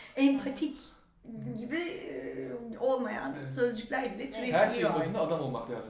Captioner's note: in Turkish